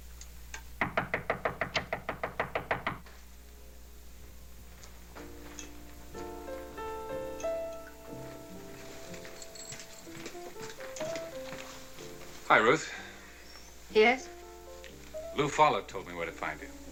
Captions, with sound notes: [knocking continues] [instrumental music] [keys jangling] Hi, Ruth. Yes? Lou Follett told me where to find you.